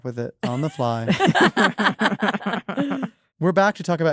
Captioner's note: laughter